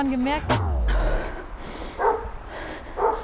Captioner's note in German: Sie atmet schwer